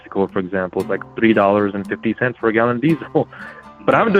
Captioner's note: laughs